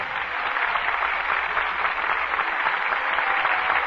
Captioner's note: applause